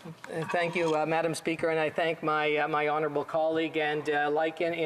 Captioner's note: speaking French